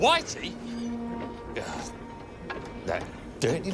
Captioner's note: groans